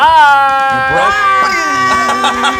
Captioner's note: laughs; imitates gunfire